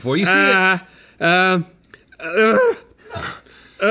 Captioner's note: groaning